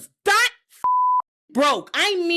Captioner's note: beep